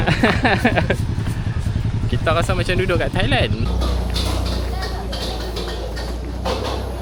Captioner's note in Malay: ketawa